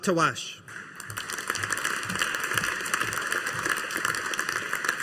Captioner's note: audience applauding